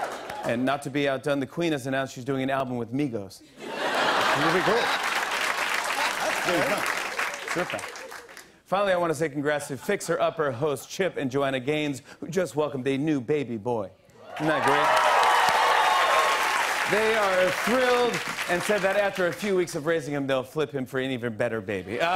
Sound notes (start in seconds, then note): 3.6 laughter and applause; 14.2 cheers and applause